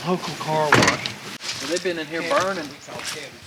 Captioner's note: door clicks